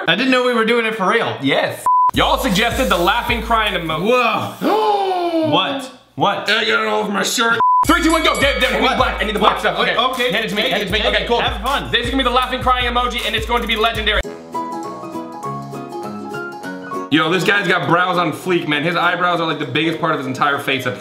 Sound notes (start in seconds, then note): 1.8 beep; 4.5 gasping; 7.8 bell dinging; 14.4 upbeat music